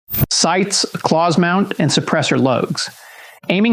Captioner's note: whoosh